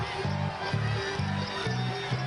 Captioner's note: background music; cheers